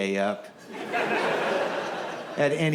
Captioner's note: audience laughs